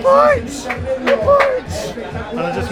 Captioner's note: spectator clapping